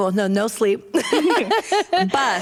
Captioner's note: laughter